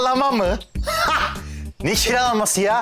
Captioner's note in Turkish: Gülme sesi